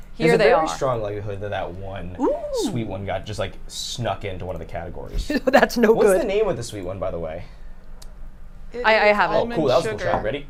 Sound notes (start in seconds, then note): 5.2 chuckles